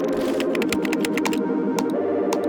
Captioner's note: upbeat electronic music; keyboard clacking; mouse button clicking